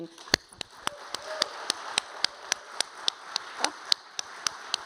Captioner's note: audience applauding